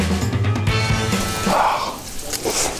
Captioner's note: awww